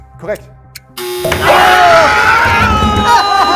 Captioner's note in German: Wilde Rufe